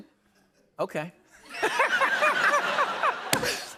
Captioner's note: laughter